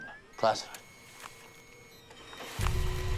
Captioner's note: printer whirring